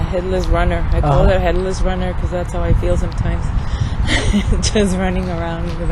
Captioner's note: laughs